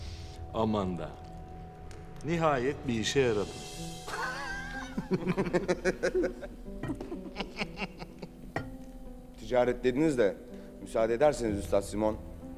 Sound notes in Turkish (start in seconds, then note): 3.9 Gülme sesleri